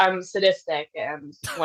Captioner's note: laughs